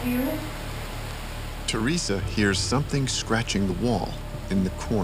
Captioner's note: voiceover